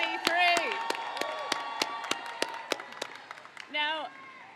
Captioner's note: crowd cheers